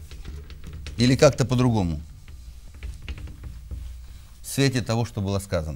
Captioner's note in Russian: стук маркера по бумагу